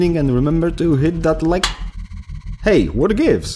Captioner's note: click